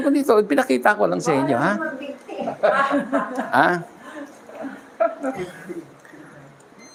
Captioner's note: laughter